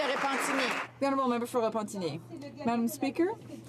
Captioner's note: some Applause